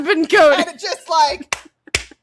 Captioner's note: clap clap clap clap